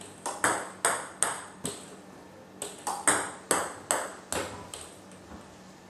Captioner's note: ball ping pong hitting continues